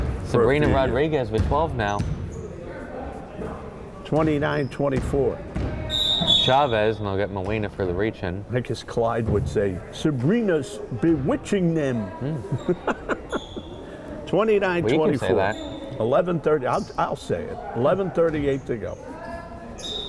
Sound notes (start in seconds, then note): 5.9 whistle blowing; 12.2 chuckles